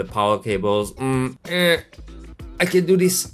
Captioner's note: struggling sounds